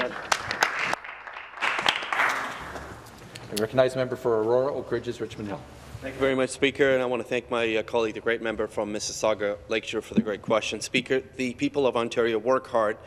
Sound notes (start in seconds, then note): 3.1 some Applause